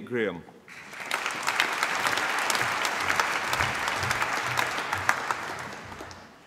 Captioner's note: applause